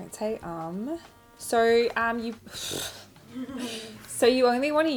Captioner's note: laughs